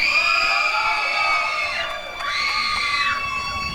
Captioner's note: applause and cheering